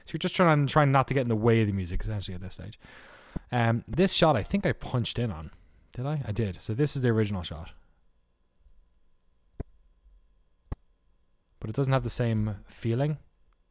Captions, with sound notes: So you're just trying not to get in the way of the music, essentially, at this stage. This shot, I think I punched in on. Did I? I did, so this is the original shot. (silence) But it doesn't have the same feeling?